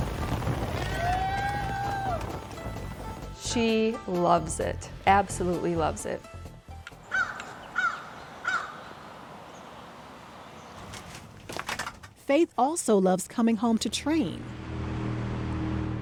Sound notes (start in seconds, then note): 0.7 cheers and applause; 7.0 bird squawking; 14.0 motorboat rumbling